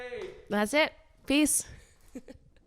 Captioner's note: giggling